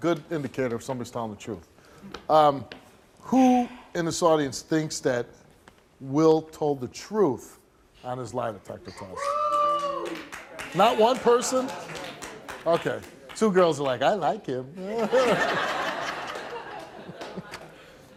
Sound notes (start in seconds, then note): 8.9 audience boos; 9.4 audience member clapping; 14.7 Steve chuckles; 14.9 audience laughs